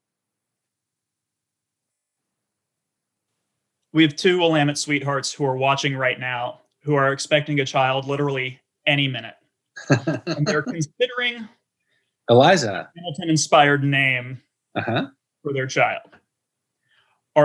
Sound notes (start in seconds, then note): 9.8 chuckles